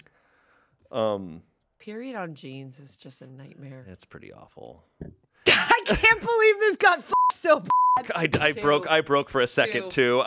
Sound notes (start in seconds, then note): 5.5 laughs; 7.6 beep